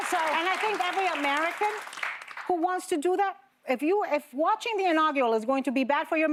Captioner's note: applause